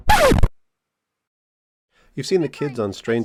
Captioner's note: record scratch